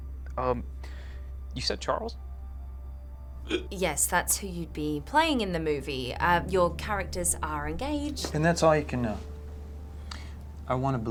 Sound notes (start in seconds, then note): 3.4 Jack hiccups